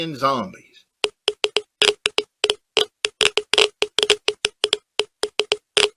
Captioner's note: geiger counter clicking